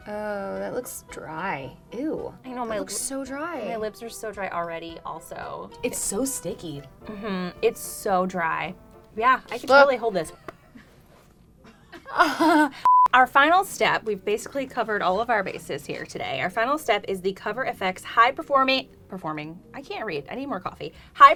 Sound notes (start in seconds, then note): 11.8 laughing; 12.8 beep